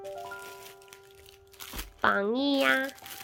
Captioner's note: rustling